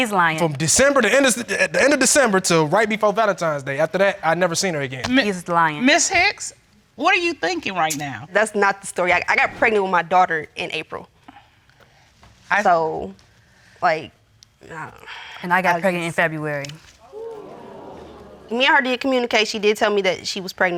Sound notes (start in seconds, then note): 15.2 audience exclaims